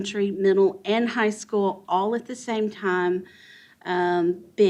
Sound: none

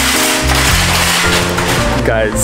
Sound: cart bumping

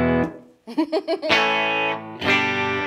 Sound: strums A chord; laughing; strums A chord

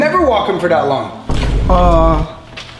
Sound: audio thuds

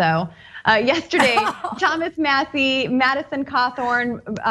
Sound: laugh

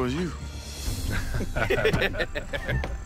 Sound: all laugh

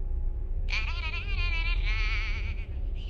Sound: phone ringing continuously

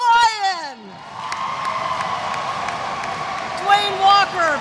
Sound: audience cheers; audience applauds

